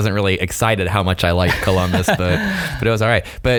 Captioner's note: laughing